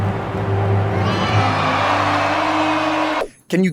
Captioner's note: crowd cheering